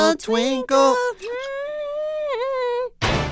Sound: humming

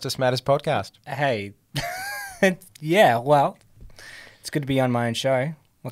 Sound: chuckles

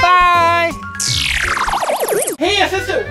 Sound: twinkling

